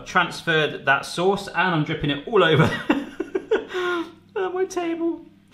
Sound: laughing

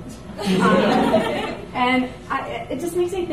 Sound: audience laughs

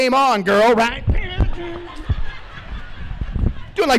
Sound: laughter

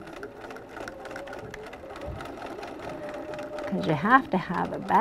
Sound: machine slowly running

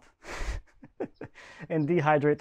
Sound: laughing

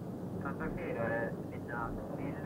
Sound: Swedish spoken audio

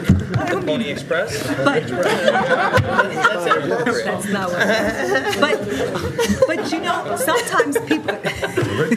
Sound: laughter

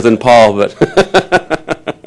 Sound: laughter

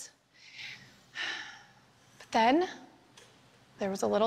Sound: sighs

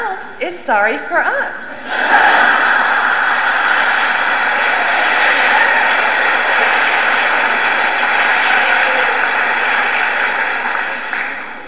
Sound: roar of laughter

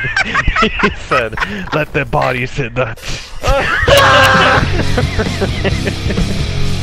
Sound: laughing

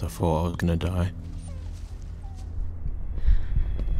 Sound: dog whimpers; suspenseful music

